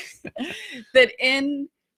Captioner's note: laughing